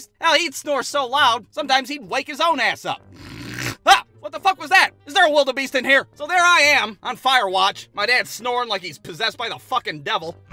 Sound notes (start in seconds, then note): 3.1 snores